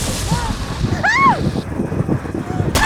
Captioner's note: screaming